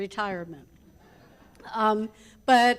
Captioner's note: audience laughs